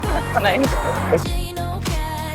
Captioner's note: laughter